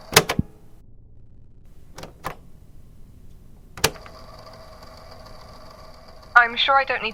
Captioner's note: click